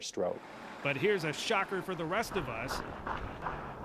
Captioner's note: voiceover